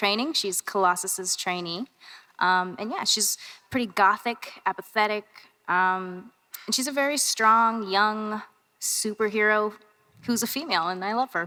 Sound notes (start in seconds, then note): none